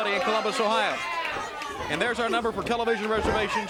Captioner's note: crowd chatter